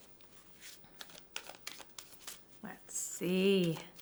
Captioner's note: cards shuffling